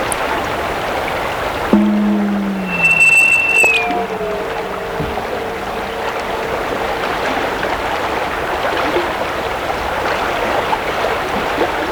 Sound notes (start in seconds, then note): 1.6 popping, high-pitched noises; 8.6 running water